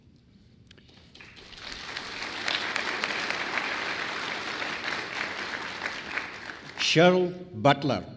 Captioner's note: applause